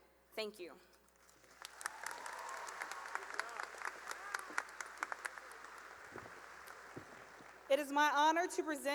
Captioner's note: cheering and applause